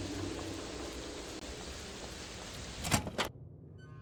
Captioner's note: rain